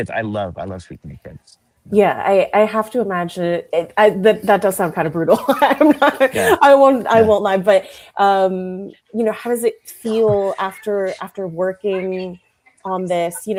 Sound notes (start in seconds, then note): 5.2 laughs